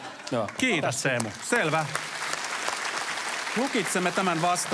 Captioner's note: applause